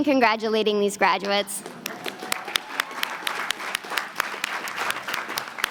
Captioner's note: applause